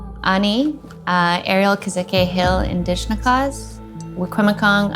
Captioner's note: speaks Indigenous language